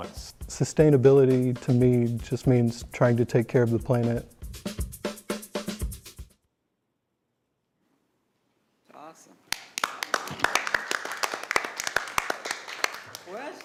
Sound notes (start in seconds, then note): 4.4 upbeat drum music continues; 6.0 music stops; 9.5 all applauding